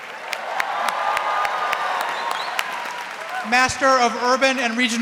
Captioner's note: audience cheering